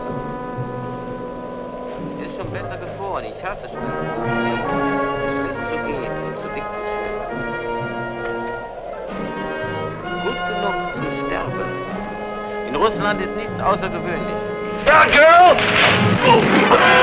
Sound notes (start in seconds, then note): 10.1 German spoken audio